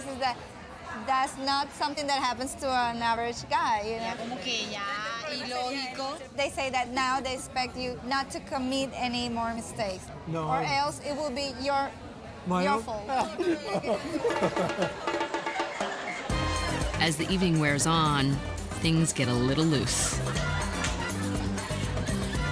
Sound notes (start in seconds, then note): 4.2 women speaking spanish; 13.1 laughs